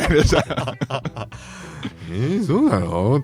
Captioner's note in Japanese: 笑い